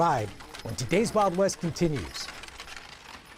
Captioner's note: none